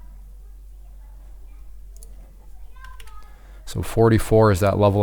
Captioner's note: children talking faintly